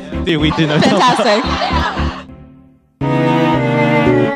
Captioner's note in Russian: нервный смех